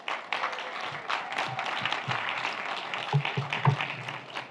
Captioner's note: audience applauds